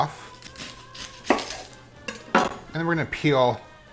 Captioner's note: slicing